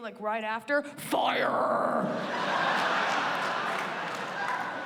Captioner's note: laughter